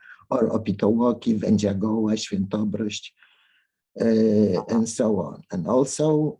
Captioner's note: speaking in a foreign language